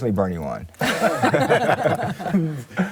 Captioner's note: laughter